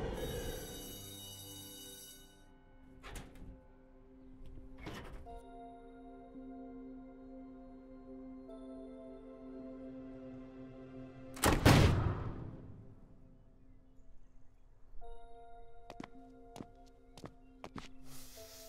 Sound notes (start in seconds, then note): 0.1 bell rings; 11.4 door opens; 15.5 footsteps